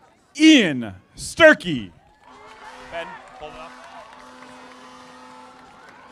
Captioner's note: audience applauding